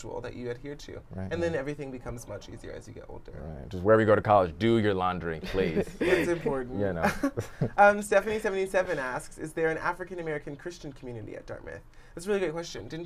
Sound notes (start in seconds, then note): 5.4 laughter